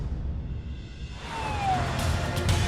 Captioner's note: siren wailing; intense music